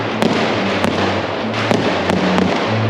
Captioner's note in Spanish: sonido de pirotecnia